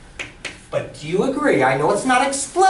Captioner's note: voiceover